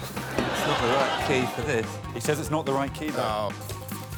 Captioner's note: audience groaning